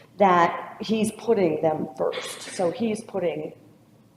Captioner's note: none